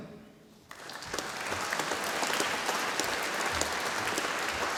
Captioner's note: audience applauding